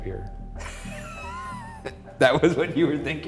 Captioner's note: laughs